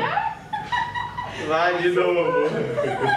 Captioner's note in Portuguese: risadas